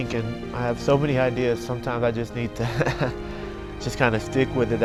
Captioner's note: laughs